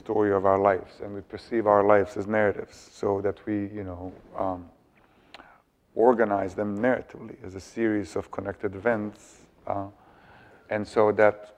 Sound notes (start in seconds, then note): none